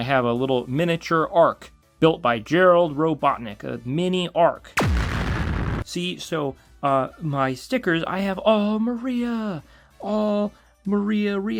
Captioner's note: laser blast